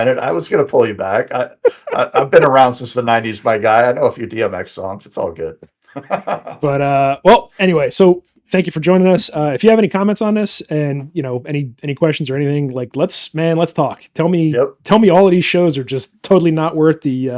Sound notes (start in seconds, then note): 5.9 laughing